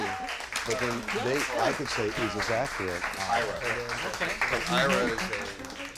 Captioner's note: applause